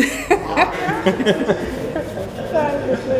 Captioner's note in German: Lachen